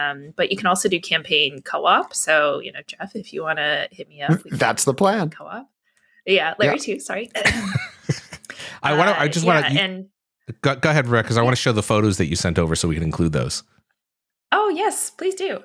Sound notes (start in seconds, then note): 7.4 chuckling